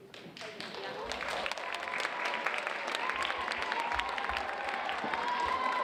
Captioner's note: audience applauding